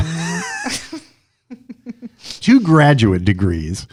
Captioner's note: laughter